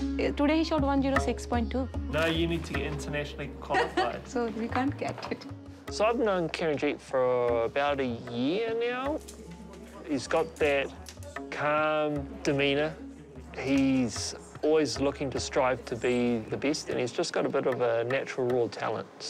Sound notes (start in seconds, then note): 3.7 laughs